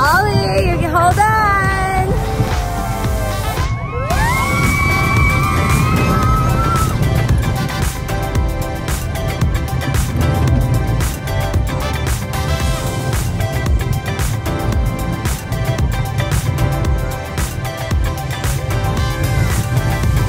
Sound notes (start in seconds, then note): 3.2 screaming